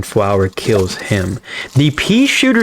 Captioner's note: inhales Oxygen